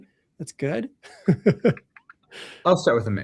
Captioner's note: laughs